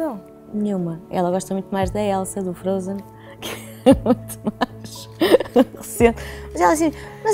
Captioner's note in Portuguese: risos